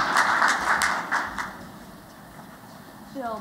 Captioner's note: applause